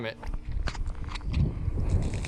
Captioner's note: wind gusting; ice cracking